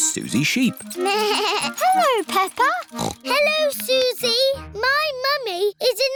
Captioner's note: bell ringing; bleats; snorts